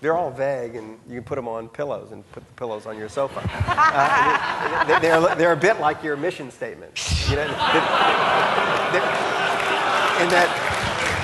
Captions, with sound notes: - They're all vague and you can put 'em on pillows and put the pillows on your sofa. (audience laughing) (laughing) They're they're a bit like your mission statement, you know. (audience laughing)